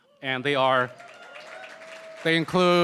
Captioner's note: applause